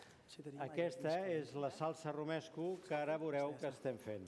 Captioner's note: non-english speech